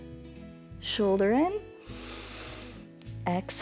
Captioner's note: inhales; exhales